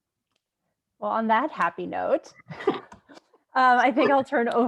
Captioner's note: laughs